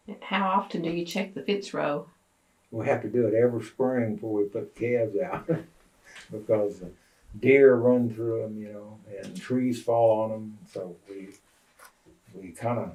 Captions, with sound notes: How often do you check the fence row? We have to do it every spring before we put calves out. (Laughs) Deer run through them, you know, and trees fall on them.